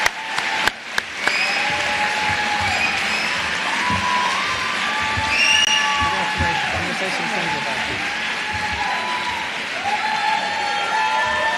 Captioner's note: cheers and applause